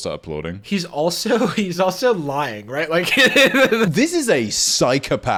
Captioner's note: laughing